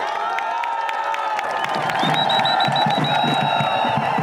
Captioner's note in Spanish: Aplausos